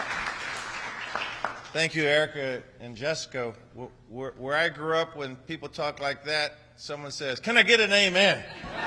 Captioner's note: applause